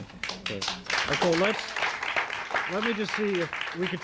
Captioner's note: audience applauding